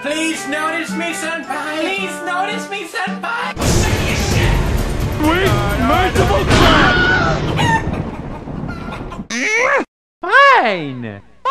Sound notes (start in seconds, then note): 6.4 Wilhelm scream; 7.3 chicken noises; 9.3 groan